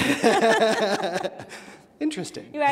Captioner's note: laughing